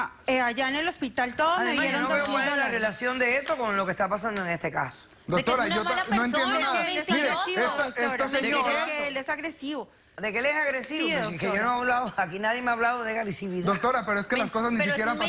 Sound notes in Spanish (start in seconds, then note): 5.7 comentarios al unísono